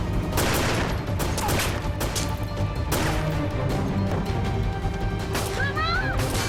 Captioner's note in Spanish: Disparos